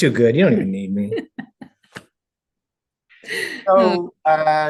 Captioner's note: laughing